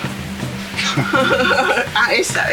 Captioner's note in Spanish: Risas